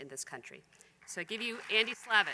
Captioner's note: applause